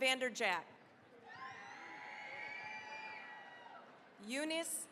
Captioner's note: cheering, applause